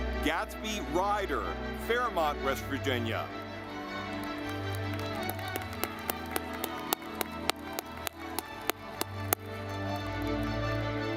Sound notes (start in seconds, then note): 3.3 ceremonious music; 3.7 audience clapping